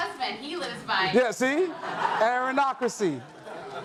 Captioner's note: audience laughs